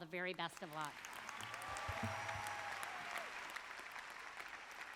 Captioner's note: audience applauds